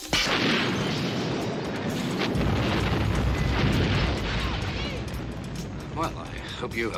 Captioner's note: glass smashing; large explosion, multiple smaller explosions